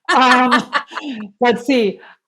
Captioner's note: laugh